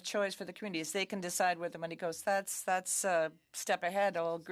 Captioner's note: speaking French